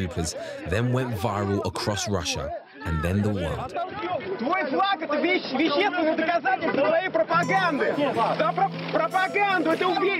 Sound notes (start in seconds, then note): 4.1 people yelling in foreign language